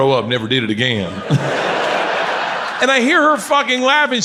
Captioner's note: audience laughs